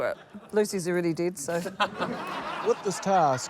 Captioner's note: laughter